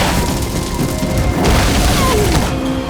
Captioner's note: grunting